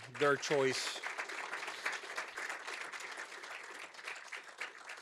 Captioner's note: applause